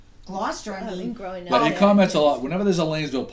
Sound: voiceover

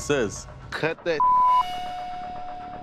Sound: beep

